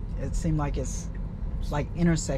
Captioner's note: none